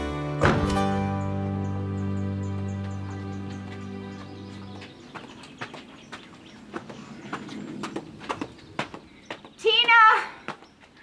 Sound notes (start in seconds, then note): 0.4 door thudding; 1.0 birds chirping